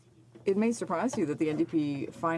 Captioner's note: speaking French